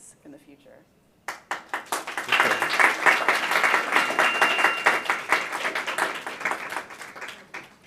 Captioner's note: audience applause